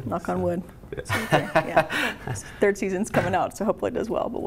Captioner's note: laughs